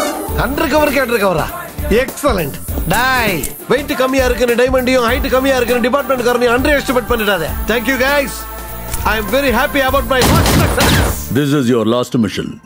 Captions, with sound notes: An undercover for another? Excellent! Hey! Don't underestimate a light diamond or a short police officer. Thank you, guys! I am very happy about my first successful operation. - (Gunshot) This is your last mission.